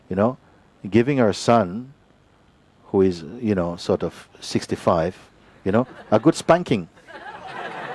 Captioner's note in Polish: śmiech